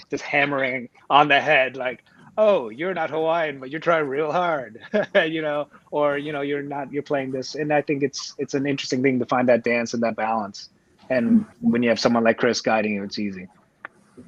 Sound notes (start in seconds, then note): 5.4 laughs